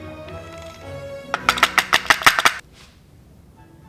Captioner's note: knocking